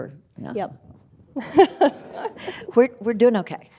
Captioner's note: laughing